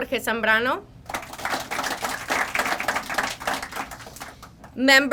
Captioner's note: crowd applauding